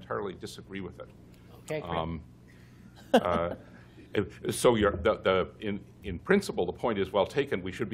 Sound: laughter

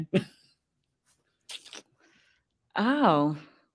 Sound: laughs

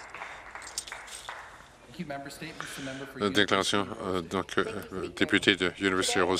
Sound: some Applause

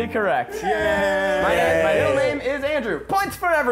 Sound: chorus of yays

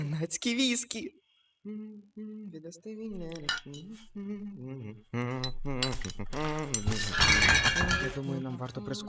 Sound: humming

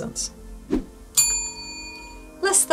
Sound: bell rings

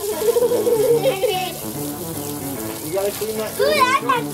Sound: children laughing

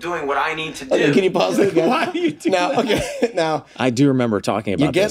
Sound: laughs

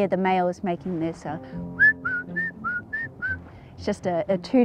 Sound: whistles birdsong

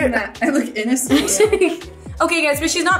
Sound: laughs

